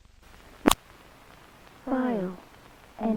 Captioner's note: Static